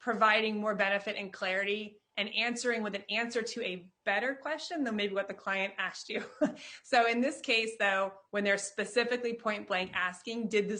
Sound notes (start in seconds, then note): 6.5 chuckles